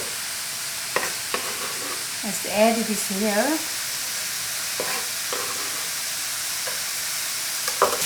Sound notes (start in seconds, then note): 4.8 pan sizzling